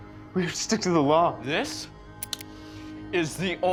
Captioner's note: cocks pistol